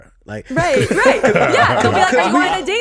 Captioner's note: laughs